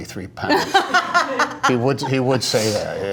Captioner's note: laughter